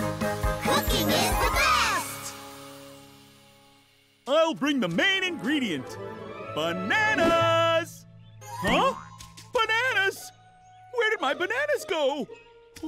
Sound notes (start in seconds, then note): 6.4 in sing-song voice